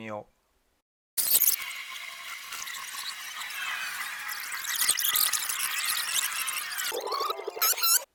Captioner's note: sound effect playing backward